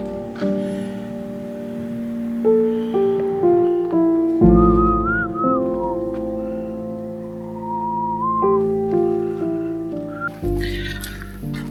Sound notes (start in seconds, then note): 4.6 whistling